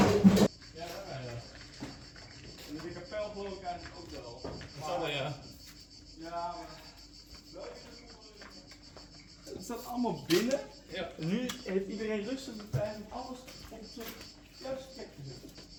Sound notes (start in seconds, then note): 1.4 dutch chatter